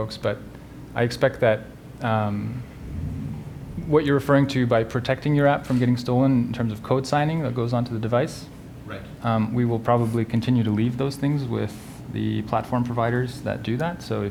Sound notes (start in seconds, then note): 8.9 voiceover